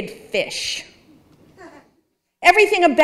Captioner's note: audience chuckling